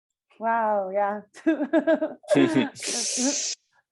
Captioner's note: laughter